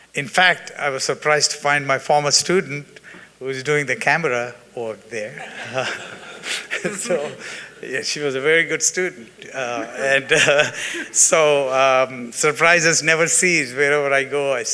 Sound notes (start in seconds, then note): 5.2 attendees laughing